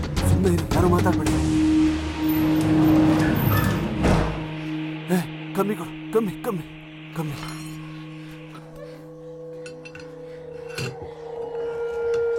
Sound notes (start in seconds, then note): 2.4 door closes; 9.6 rod sound